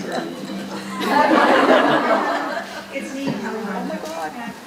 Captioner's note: audience laughing